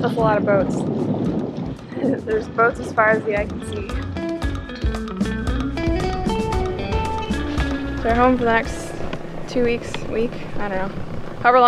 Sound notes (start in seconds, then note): 1.9 laughs; 4.1 upbeat music